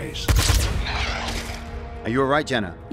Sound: blaster fire, Grays die

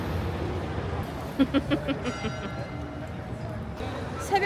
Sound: laughs

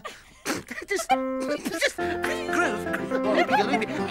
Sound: Tula and Iver laughing

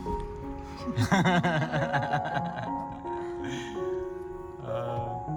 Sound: laughter

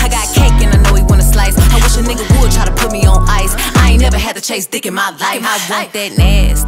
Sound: brrr

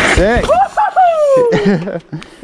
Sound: laughing; shouts of excitement

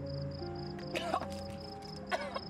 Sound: vomits

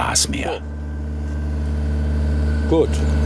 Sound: rattling

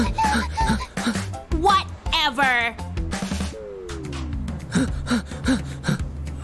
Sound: puffs

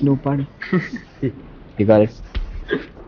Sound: laughs

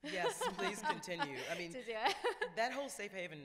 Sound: laughs

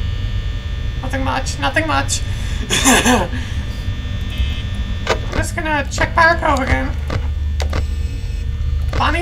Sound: nervous Laugh

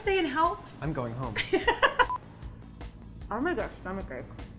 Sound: laughs

